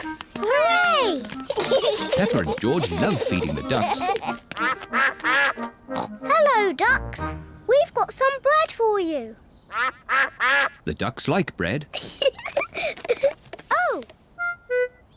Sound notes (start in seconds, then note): 4.5 all quack; 9.7 quacking; 11.9 giggles